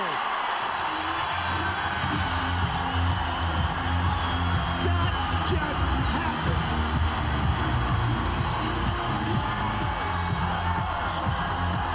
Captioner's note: cheers & Applause